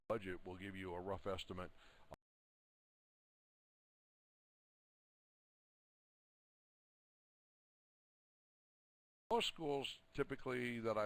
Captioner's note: audio drops